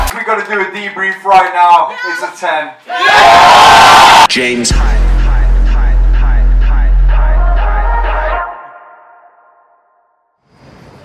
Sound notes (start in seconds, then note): 2.8 crowd cheers